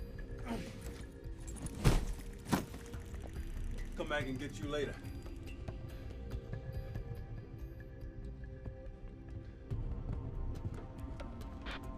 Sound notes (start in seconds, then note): 1.5 bag thudding